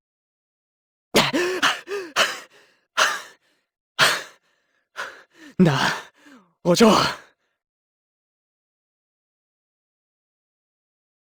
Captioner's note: panting